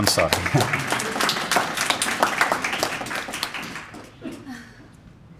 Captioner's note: applause